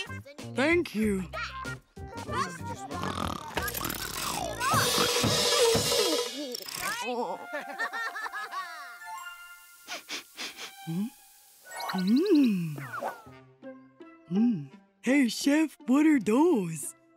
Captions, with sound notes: Thank you. [snoring] Right? [laughing] [sniffing] Hm? Mmm. Mm. Hey, Chef, what are those?